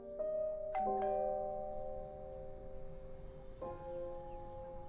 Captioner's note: doorbell rings